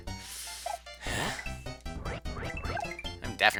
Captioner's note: breathing